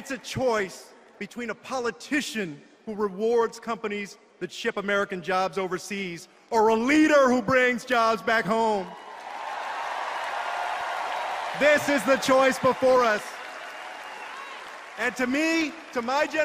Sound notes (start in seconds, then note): 8.8 cheers and applause